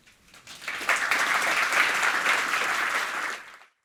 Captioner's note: applause